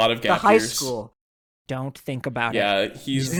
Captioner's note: sternly